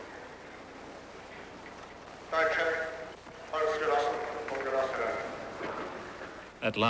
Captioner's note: speaking german